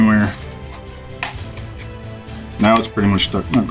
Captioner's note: glue snaps